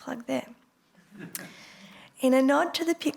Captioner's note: laughter